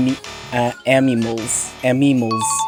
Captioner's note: loud incorrect buzzer; correct Sound Effect